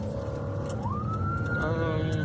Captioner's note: siren blaring